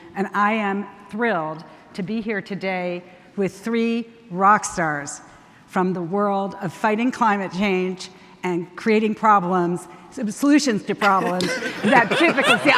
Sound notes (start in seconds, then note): 11.0 panelists laughing